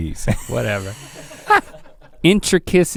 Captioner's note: Rhett laughs